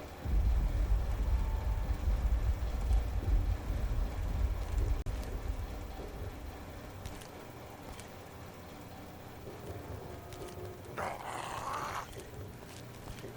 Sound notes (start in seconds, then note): 8.0 creepy trog feet shuffling; 11.0 Trog-shrieking